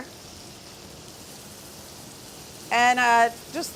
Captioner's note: tomatoes sizzling